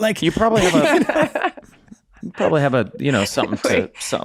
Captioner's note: laughing